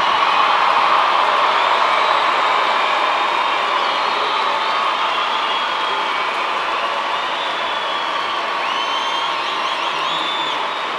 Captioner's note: cheers and applause